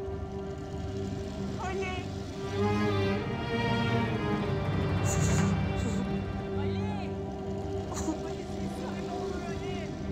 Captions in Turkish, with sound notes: Ali! [Ağlıyor] Ali! Ali ses ver, ne olur Ali!